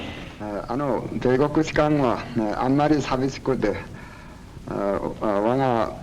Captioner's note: speaking Japanese